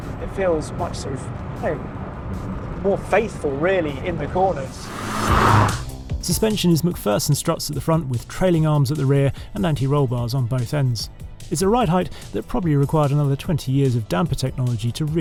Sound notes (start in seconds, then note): 4.6 car roaring